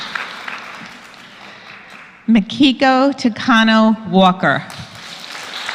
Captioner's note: applause